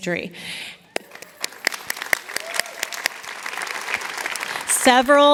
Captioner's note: applause